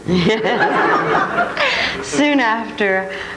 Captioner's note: laughing